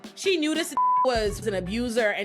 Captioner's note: beep